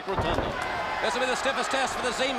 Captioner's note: crowd chattering